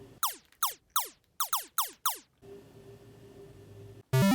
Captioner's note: video game sounds